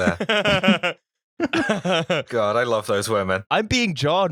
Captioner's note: laughter